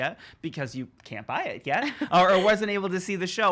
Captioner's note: laughs